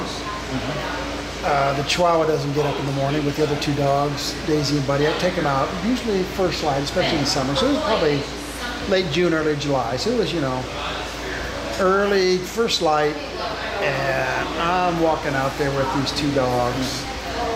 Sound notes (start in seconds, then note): none